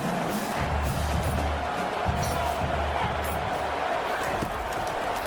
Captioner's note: crowd Noises